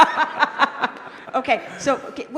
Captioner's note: laughter